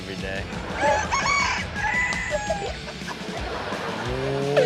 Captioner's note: rooster crowing; audience laughs